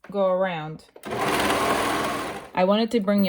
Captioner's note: machine whirring